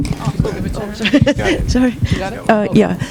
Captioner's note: laughing drowns out speaker